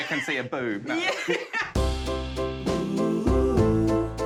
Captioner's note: laughs